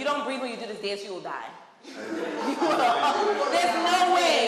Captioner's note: group laughing